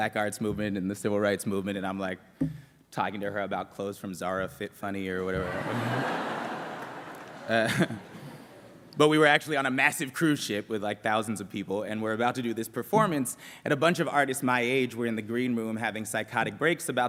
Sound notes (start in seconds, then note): 5.4 laughter